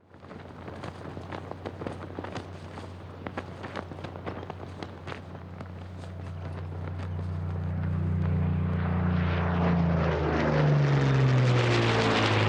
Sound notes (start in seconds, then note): 0.0 flag flapping; 3.9 engine rumbling